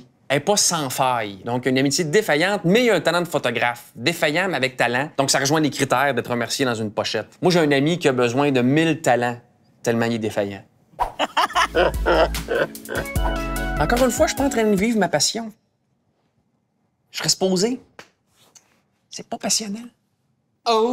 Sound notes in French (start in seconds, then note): 11.0 Rires